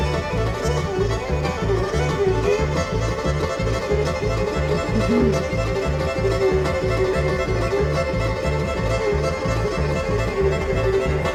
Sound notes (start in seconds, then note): 4.8 sniffing